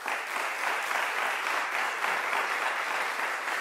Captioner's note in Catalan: Aplaudiments